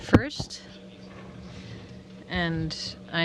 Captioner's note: speaking french